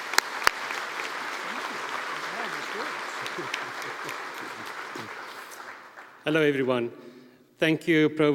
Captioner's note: applause